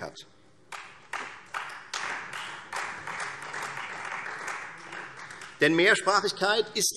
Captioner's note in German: Beifall Freie Demokraten